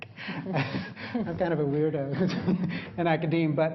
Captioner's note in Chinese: laughter; 笑聲